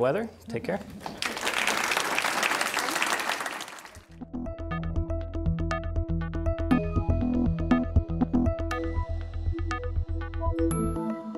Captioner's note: applause